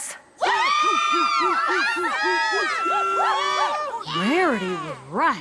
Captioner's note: cheers